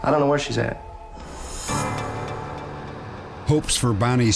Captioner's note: whoosh